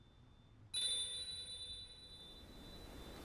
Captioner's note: bell chimes again